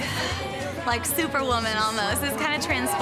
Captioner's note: sighing